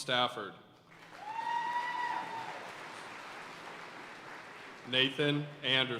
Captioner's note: audience cheering and applauding